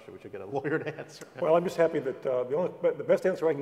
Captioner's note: laugh